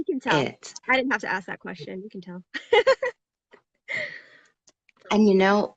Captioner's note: laughs